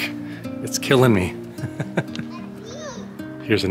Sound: laughs

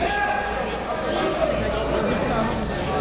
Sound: chatter

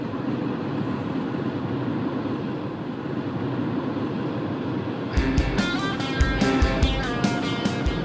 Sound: rushing sound, music

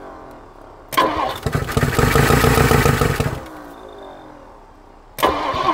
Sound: engine struggling to start

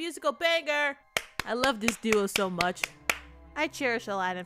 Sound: clapping

